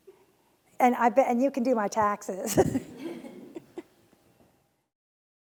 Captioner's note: laughs